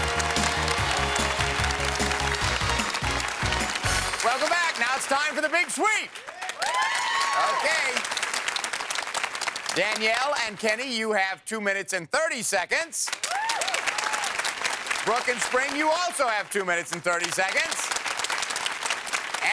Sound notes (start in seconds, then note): 0.1 applause; 6.8 applause